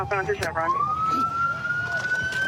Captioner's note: sirens